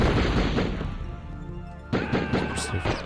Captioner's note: gun shots intensify